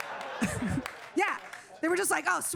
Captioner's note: audience applauding